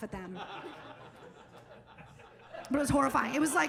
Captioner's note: audience laughing